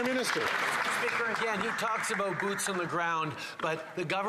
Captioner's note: some Applause